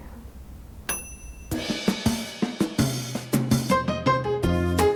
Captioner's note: bell dings; upbeat whimsical music